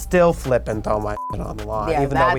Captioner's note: beep